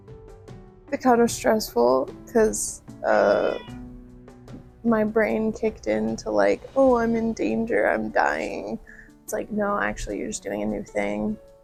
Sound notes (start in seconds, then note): 3.1 cat meow